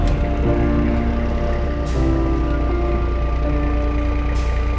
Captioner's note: engine rumbling